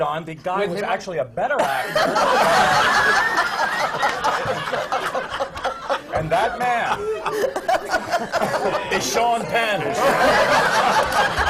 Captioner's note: laughter